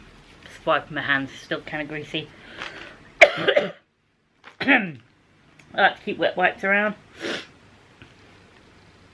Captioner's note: cough, ahem